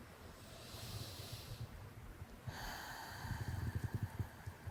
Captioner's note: quiet breathing